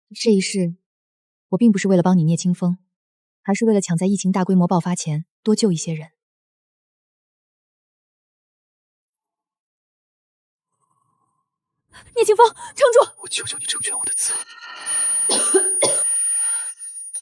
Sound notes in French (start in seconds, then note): 15.2 Tousse